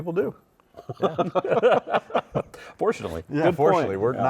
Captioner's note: laughing